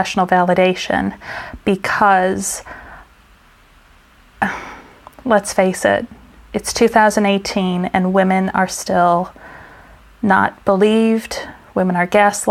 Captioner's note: sigh